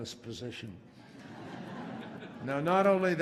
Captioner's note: laughter